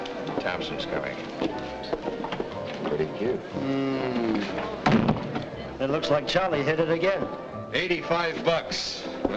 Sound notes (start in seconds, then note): 4.8 door thuds shut